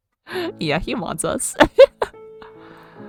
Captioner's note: laughs